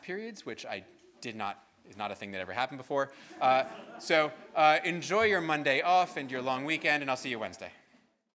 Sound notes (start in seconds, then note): 3.2 students laughing